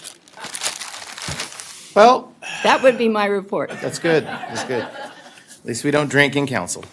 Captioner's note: laughter